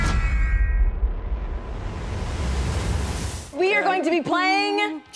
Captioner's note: computerized swooshing